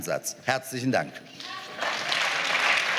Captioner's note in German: Beifall